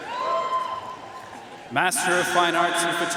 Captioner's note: audience cheering and applauding